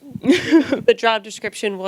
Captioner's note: laughs